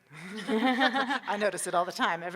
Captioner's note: audience laughing